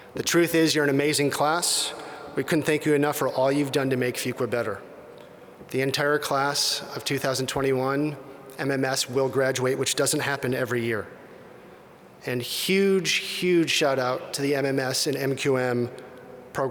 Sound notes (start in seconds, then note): none